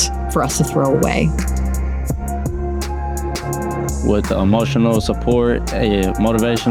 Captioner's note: none